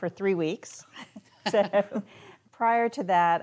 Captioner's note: laughing